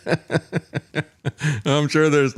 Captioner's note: laughter